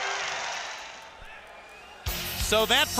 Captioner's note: crowd cheering